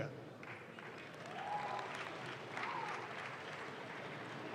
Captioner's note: audience claps